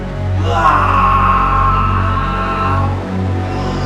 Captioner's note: guttural screaming